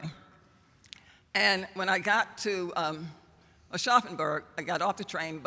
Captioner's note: german